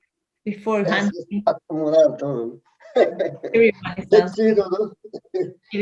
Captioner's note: speaking in Spanish